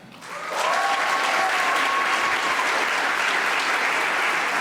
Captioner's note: audience applauding